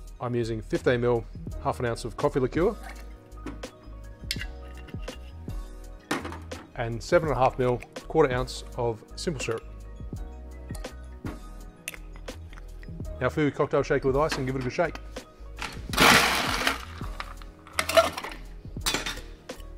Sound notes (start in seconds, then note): 15.7 ice crunching